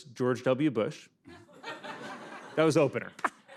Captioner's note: laughter